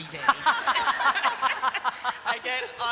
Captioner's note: laughter